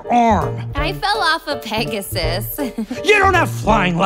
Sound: giggles

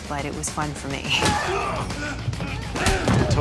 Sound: grunts

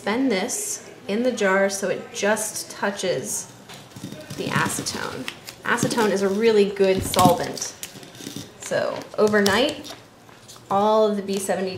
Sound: sound of tape being pulled

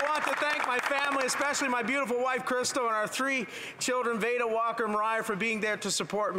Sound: some Applause

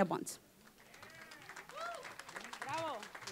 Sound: applause

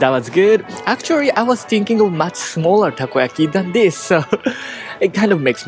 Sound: chuckle

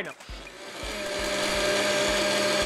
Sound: blender whirring

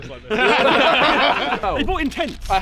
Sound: laughter

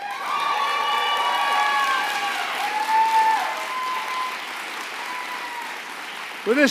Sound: applause

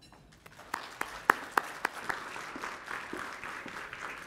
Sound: audience applauding

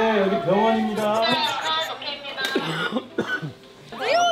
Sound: Sam-dal, bursting into laughter, right after the cut

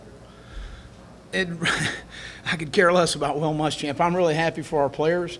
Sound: laughs

